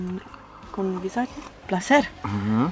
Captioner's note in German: auf Schweizerdeutsch